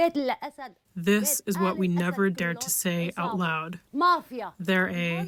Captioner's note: through translator